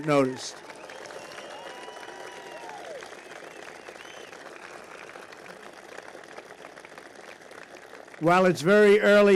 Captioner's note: applause